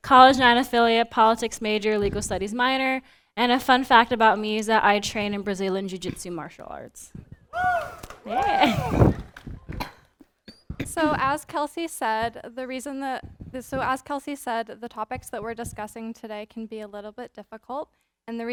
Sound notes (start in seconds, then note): 7.5 audience cheering